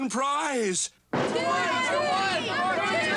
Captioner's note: crowd